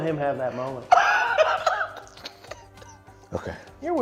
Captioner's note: giggling